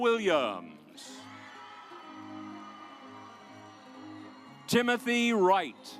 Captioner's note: audience applauds